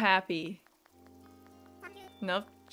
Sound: lonesome clapping

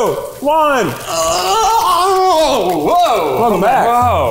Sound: groans

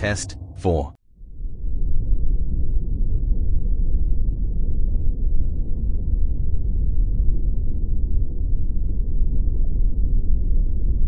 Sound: eerie ethereal transitional SFX; underwater ocean sounds with a low continuous rumble and faint bubbling

